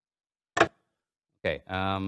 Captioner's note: mechanical clacking